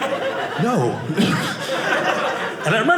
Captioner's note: audience laughing